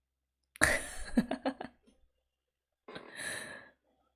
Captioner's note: laughs